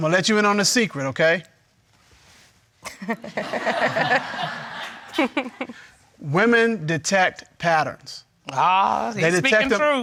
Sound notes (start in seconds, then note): 3.2 all laughing